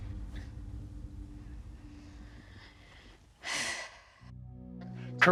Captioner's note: sighs